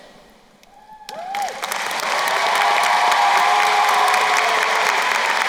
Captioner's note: crowd cheering and applauding